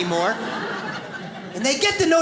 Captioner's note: audience laughs